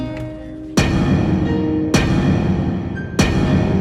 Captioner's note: somber piano music; big bang sound